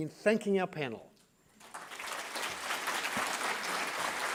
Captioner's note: applause